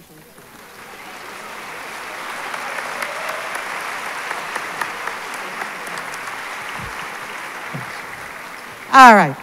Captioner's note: applause